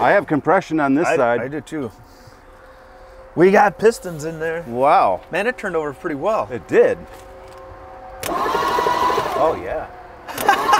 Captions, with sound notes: - I have compression on this side. - I do, too. We got pistons in there. - Wow. - Man, it turned over pretty well. - It did. (engine starts) - Oh yeah.